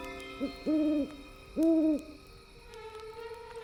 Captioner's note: owl hooting